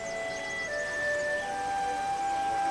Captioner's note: chirping of birds